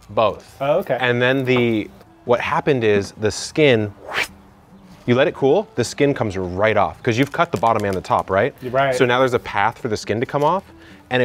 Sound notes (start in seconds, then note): 4.5 exhales